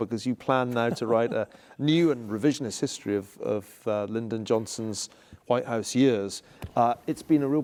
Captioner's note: laugh